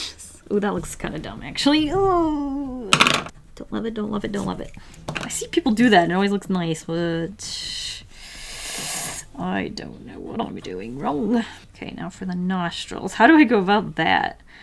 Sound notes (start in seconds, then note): 8.0 deep inhale